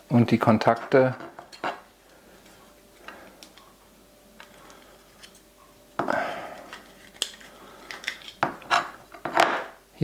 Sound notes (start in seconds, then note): 6.1 sigh